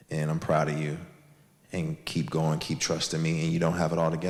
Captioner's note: none